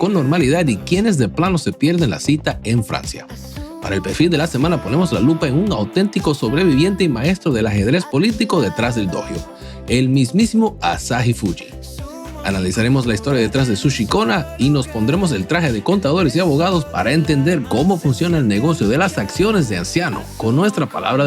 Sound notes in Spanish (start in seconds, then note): none